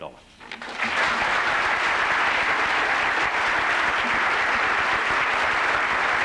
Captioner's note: applause